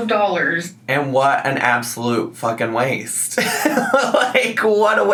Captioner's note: laughs